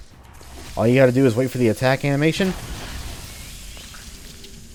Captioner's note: FWOOSH, dying screech